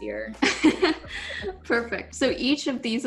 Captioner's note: laughing